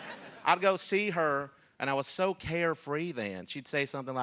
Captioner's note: laughter